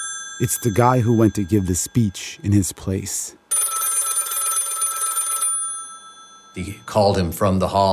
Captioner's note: phone rings; phone rings